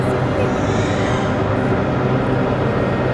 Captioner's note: baby crying